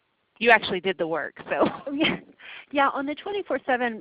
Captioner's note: laughs